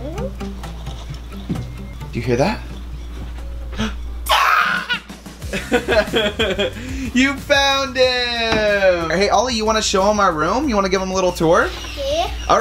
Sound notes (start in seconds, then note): 4.2 screaming; 5.4 laughing